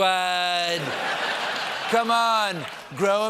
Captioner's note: laughter